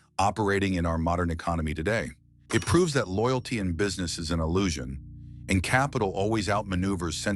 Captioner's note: SFX: cash register ding